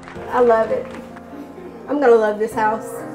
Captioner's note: crowd clapping